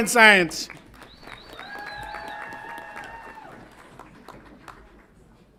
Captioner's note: audience applauds and cheers